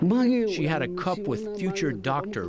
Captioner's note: through translator